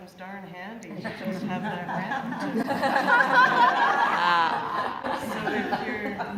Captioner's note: laughter